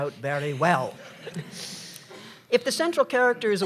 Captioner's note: laughter